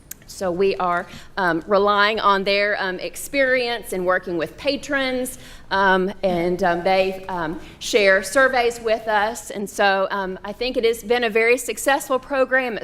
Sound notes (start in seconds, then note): none